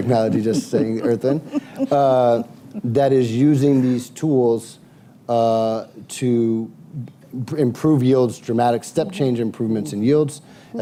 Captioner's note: laughter